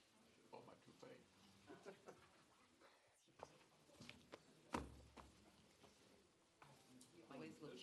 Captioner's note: chatter